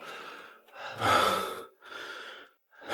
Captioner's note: exhale